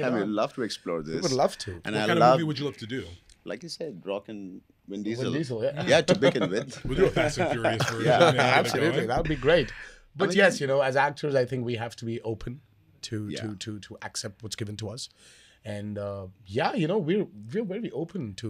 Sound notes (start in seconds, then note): 6.0 both chuckling